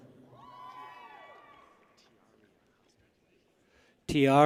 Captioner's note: people cheer